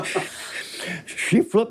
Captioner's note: everyone chuckles